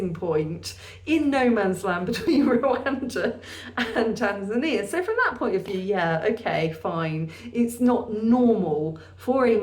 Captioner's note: laughing